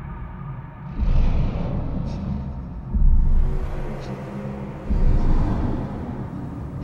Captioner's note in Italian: rumore di motori